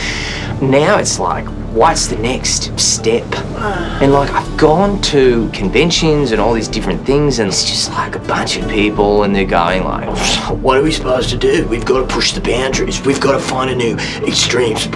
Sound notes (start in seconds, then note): 2.3 grunts; 10.0 scoffs